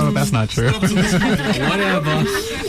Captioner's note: laughing